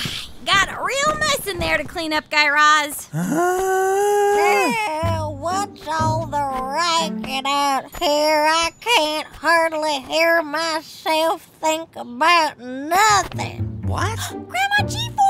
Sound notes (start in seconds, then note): 5.7 groan